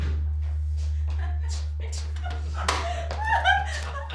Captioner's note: laughing